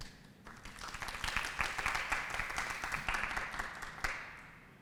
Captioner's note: applause